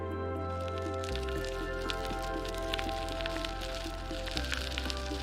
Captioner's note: bicycle tires on asphalt